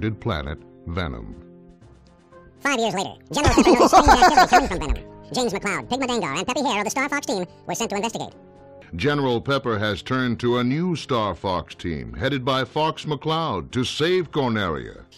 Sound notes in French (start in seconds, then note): 3.0 Très aiguë